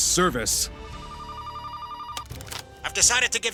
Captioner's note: phone ringing